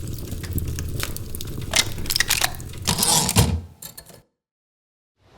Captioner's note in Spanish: Ruidos mecánicos y retorno de carro de una máquina de escribir